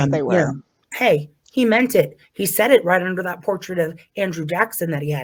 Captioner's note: sarcastically